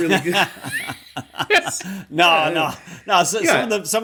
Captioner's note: laughter